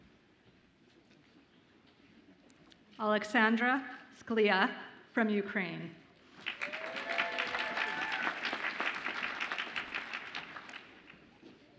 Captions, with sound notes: Oleksandra Skliar from Ukraine. (audience applauds and cheers)